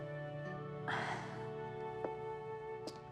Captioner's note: sighs